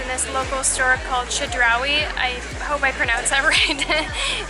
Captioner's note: laughter